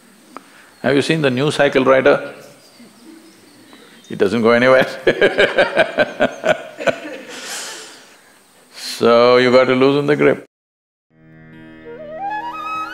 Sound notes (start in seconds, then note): 4.8 laughter